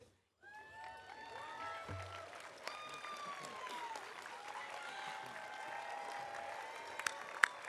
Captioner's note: audience cheering; audience applauding